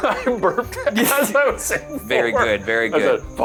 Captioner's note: laughing